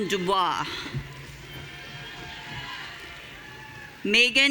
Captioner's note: audience cheering